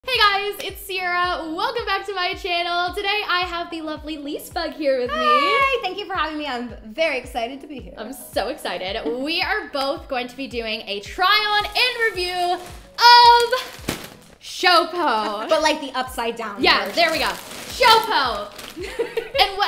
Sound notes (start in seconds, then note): 11.6 crinkling plastic; 18.8 laughing